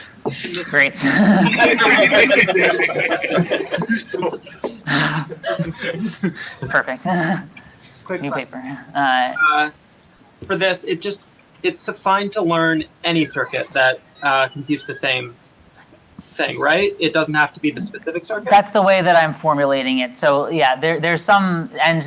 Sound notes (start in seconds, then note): 1.3 laughter